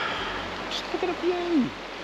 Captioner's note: sighs